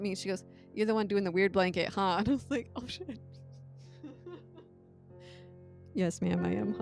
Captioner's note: laughing